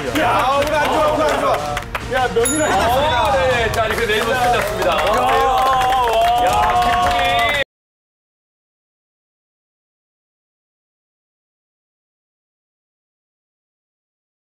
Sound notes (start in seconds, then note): 5.8 an automatic standing ovation